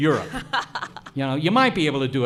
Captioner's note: laughs